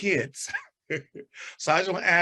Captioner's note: chuckles